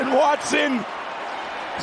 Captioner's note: cheers and applause